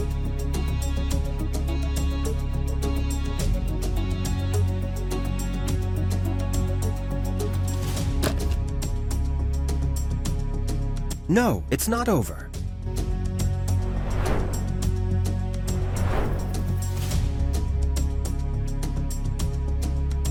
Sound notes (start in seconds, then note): 3.1 suspenseful music continues; 12.4 suspenseful music continues; 13.6 transition whooshing; 14.7 suspenseful music continues; 15.5 transition whooshing; 17.0 suspenseful music continues